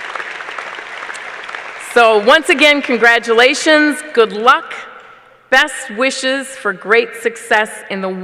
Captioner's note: applause